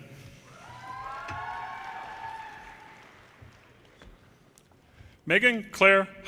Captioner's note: audience cheers and applause